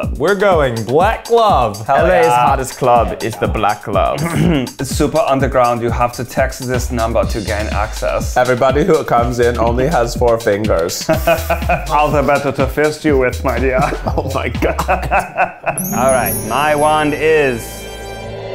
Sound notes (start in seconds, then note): 4.2 clears throat; 11.0 laughs; 13.7 laughs